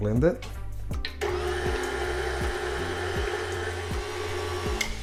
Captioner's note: blender churning